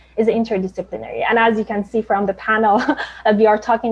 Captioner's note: chuckles